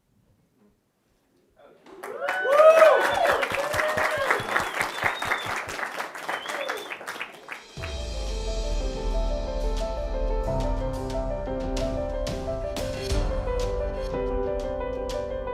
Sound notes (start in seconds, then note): 1.8 audience applauds; 4.3 audience member whistles; 7.6 moving music